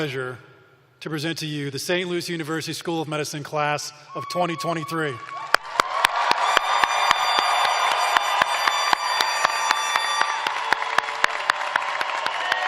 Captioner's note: cheers and applause